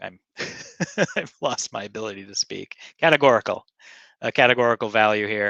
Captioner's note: laughing